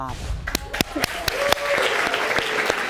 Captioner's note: audience applauding